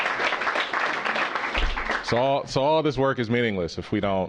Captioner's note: applause